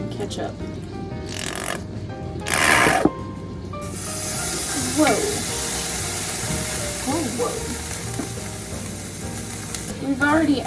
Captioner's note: pan boils over